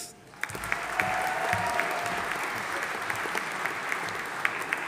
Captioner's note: audience applauding